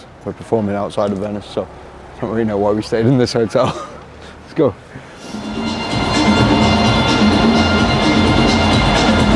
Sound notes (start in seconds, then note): 3.5 chuckles; 5.2 upbeat music